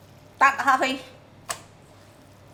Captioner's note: Cantonese